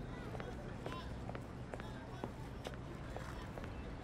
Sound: distant chatter

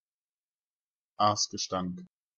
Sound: fast Pronunciation

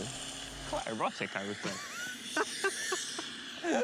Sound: laughing

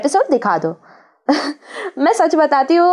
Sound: giggles

